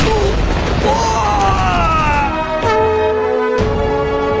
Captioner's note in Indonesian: berteriak